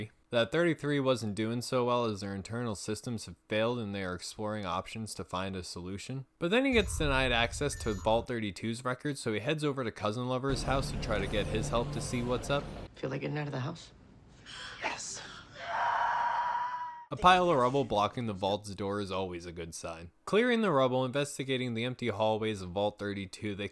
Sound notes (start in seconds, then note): 15.0 whispers; 15.5 Patchy Birth Screams in background